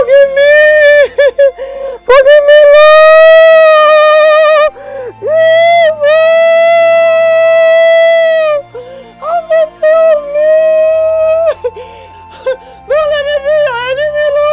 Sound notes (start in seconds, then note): 10.3 weeping